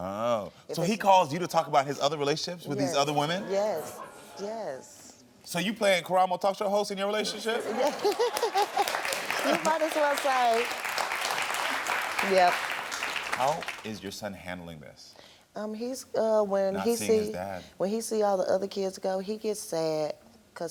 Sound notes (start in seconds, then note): 7.2 all laughing; 7.4 audience applauding